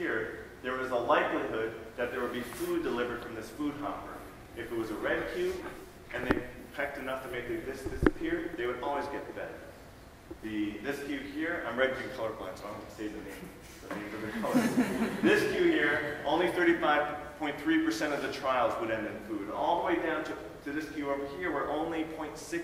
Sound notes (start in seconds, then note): 14.1 laughing